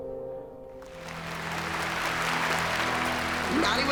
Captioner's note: cheering and applause